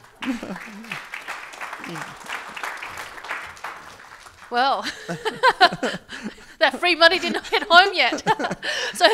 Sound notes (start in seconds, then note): 0.0 audience applauding; 4.5 laughing